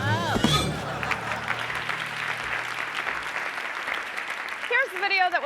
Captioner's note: grunts; thuds; audience laughing and clapping